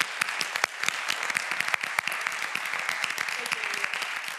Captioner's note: applause